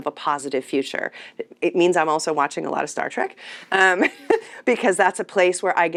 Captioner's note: laughs